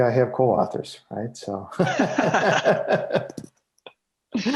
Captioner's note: laughing